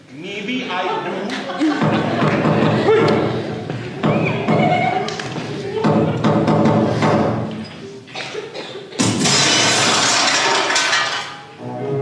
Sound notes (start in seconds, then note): 3.9 there is a knock on the door again